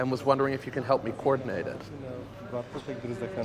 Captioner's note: speaking foreign language